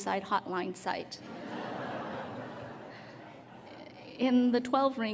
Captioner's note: laughter